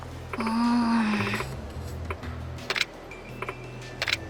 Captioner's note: sigh